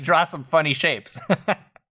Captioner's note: laughter